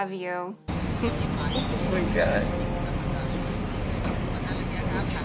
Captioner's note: laughing